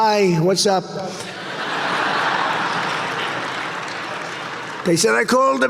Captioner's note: audience laughing